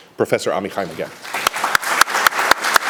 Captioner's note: applause